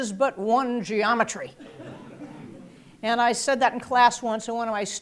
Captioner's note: laugh